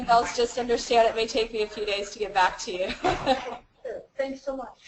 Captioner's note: laugh